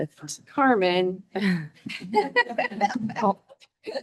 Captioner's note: laughs